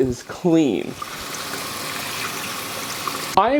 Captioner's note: water sound